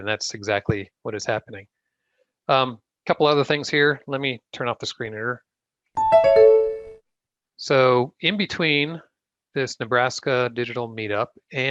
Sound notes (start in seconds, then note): 6.0 beep sound